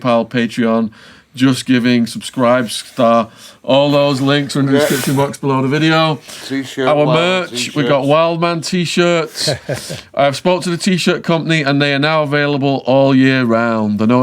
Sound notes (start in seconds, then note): 9.0 laughing